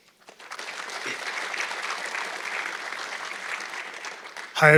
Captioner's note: audience clapping